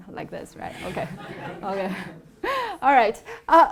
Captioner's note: attendees laughs